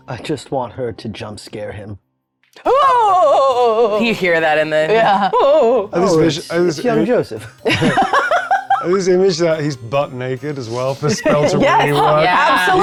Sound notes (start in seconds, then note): 2.6 shrieking; 7.6 laughing